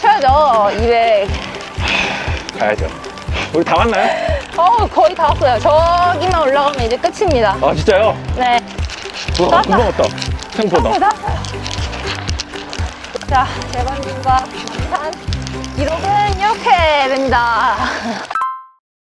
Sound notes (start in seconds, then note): 1.8 sigh